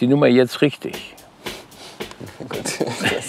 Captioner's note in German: lachend